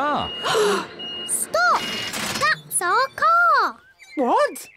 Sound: all gasp

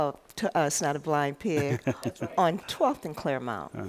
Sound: laughter

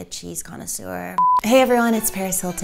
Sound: digital beep

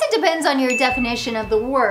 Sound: graphics ding

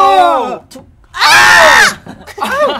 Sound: ahhhhh!!!

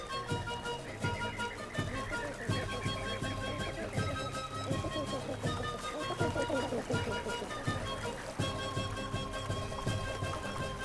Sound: sounds of flamingos gabbling

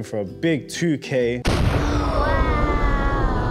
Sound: booming

